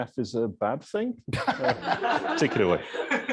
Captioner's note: laughter